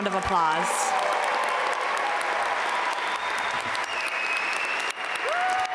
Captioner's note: audience cheer and applaud